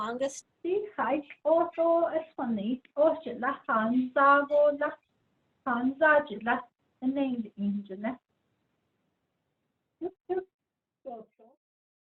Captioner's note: speaking in Diné